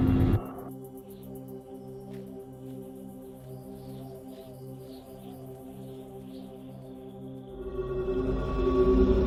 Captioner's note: whistling wind